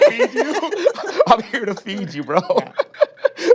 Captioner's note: all laugh; laughs